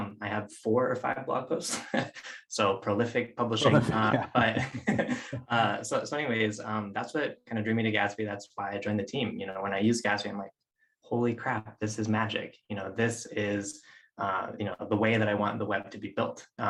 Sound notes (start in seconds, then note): 3.6 both chuckles